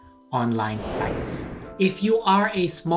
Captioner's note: whooshing